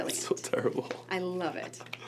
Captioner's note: laughs